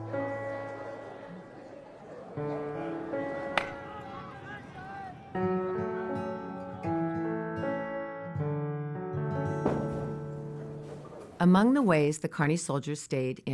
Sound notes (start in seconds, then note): 0.0 people chatter; 3.4 baseball bat clacks